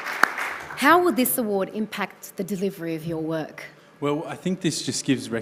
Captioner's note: applause